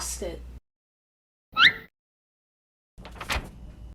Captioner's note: weep